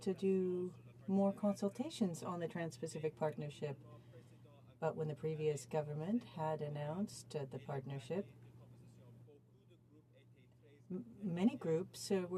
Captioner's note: speaking in french